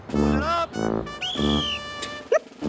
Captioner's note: Whistle blowing; Giggling